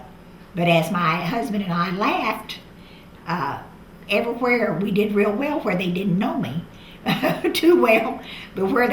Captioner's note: laughs